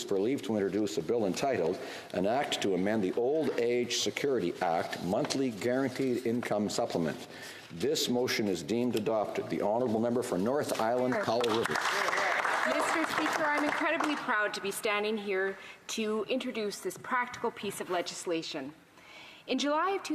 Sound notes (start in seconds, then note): 14.6 some Applause